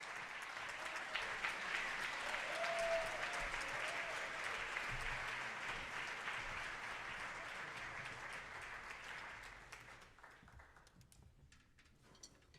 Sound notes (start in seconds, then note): 0.0 audience applauding; 2.4 audience cheering